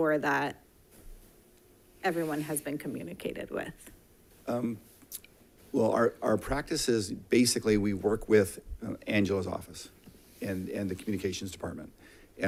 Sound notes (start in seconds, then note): none